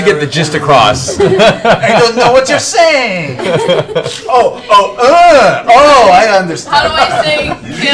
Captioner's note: French accent